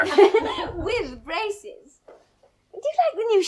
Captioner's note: Henrietta laughs